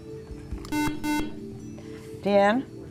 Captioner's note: beeping